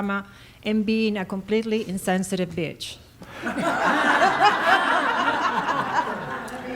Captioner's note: laughter